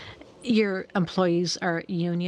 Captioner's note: speaking French